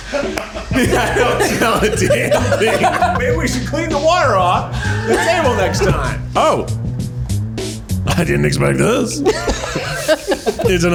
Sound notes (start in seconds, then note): 0.1 laughing; 9.1 laughs